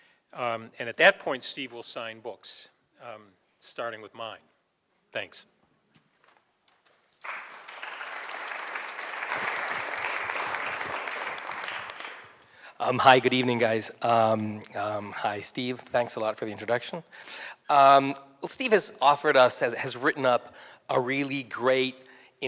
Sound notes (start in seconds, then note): 7.1 applause